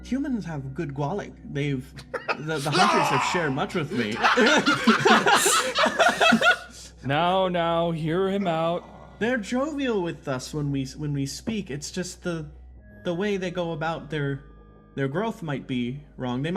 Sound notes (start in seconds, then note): 4.3 laughs